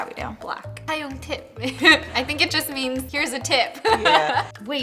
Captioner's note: foreign